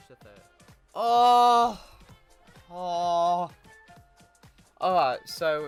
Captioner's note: the sounds of frustration